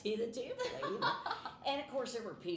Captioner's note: laughing